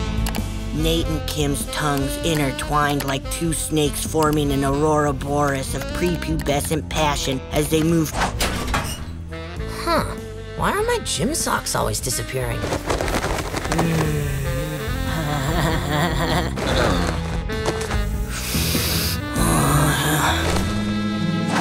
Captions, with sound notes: Nate and Kim's tongues intertwined like two snakes forming an aurora borealis of prepubescent passion as they move- Huh? Why are my gym socks always disappearing? Mm. [laughing] [grunting] [sniffing]